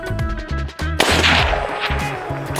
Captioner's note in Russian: выстрел